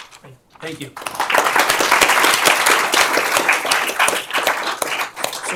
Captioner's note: applause